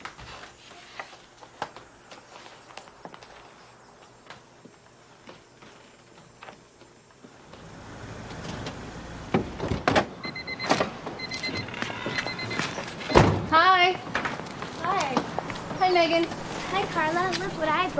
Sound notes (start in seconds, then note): 10.4 car door opening; 13.0 car door closes